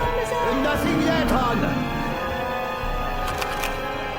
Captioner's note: zombie growling; gun cranking